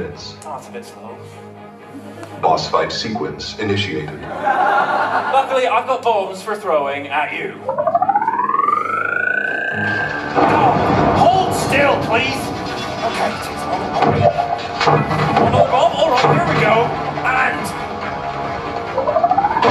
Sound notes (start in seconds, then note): 7.6 charging noise; 9.7 explosion; 13.7 portal gun fires twice; 19.0 charging noise